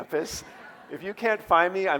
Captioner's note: audience laughing